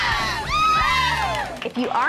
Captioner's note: group cheers